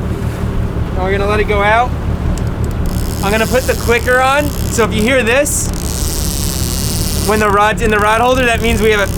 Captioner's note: clicking